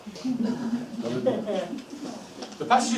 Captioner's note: laughing